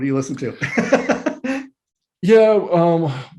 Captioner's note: laughs